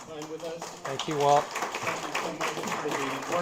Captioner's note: applause